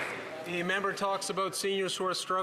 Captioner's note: applause